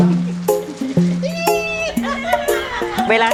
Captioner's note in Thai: เสียงหัวเราะ